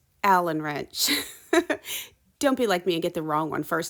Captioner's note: chuckles